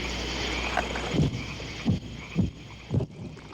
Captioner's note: distant Bombing